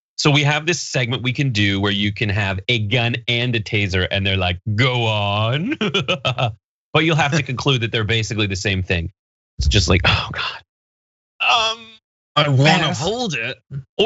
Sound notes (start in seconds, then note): 4.8 laugh